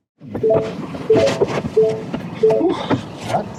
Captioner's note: truck beeping